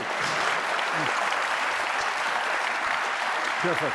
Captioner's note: audience applauding